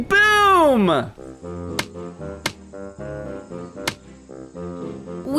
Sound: tapping

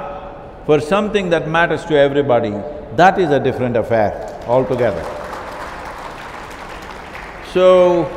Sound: applause

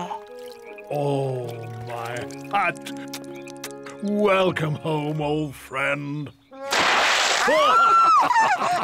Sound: kisses; laughs

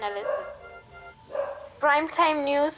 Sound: fainted Dog Bark

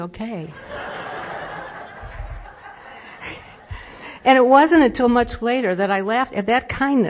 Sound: laughter

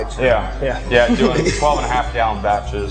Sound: laughing

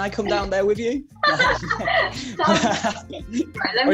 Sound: laughter

